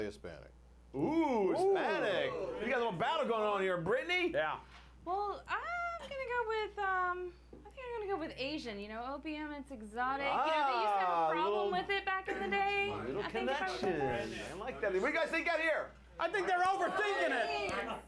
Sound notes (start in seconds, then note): 16.3 audience shouts answers